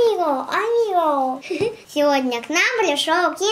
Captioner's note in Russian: смеется